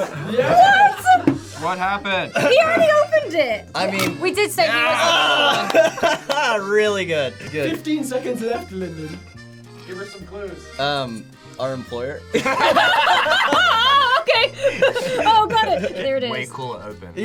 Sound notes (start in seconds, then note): 4.5 laughs; 12.3 all laugh